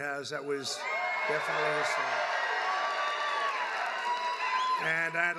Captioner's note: applause